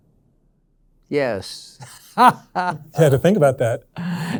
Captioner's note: laughs